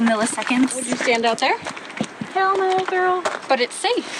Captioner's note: sassily